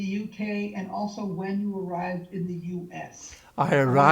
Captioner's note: laughing